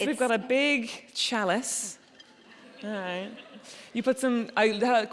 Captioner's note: audience chuckling